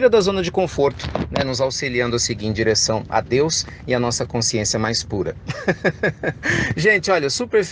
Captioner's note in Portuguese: risos